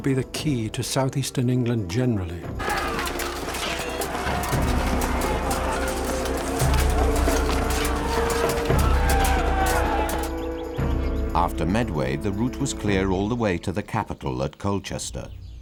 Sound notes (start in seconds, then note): 2.5 soldiers yelling; 2.6 weapons clanking